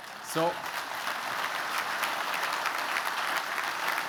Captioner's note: applause